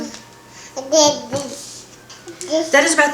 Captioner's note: baby gibberish